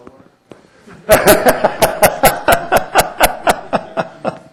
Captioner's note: laughter